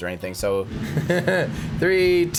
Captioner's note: laughs